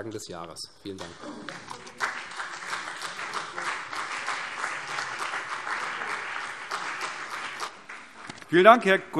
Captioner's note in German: Beifall CDU und BÜNDNIS 90/DIE GRÜNEN